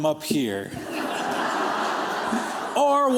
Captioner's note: laughter